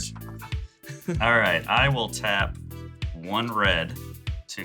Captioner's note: chuckles